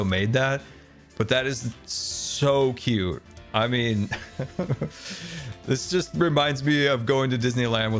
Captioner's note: laughs